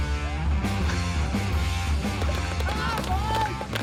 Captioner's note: applause